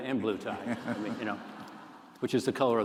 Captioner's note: laughter